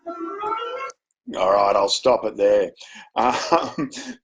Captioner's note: chuckles